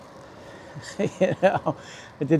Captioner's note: laughter